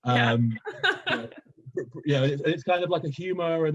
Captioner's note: laughing